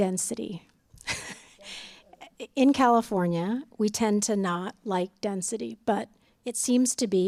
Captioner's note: laughter